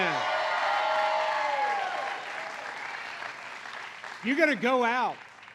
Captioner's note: applause